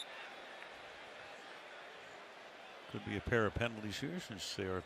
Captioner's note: whistle